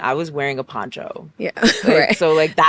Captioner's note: laughs